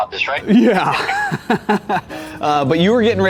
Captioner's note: laughs